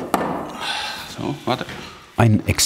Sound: sighing

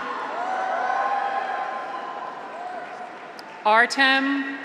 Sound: graduates cheer

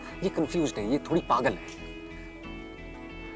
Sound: none

